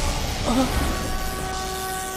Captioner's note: sighs